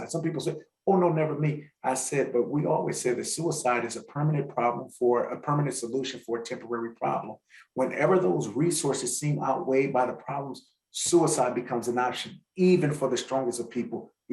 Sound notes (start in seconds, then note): none